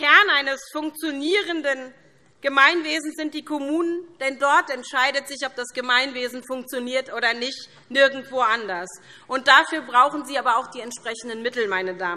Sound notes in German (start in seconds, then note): none